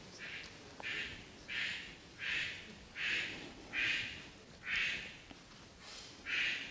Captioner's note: A bird cawing loudly